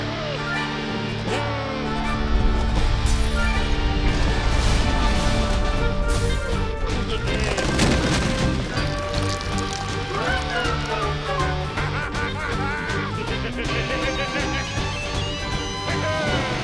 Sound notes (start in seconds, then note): 10.7 evil laughter